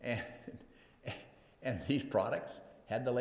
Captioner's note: laughs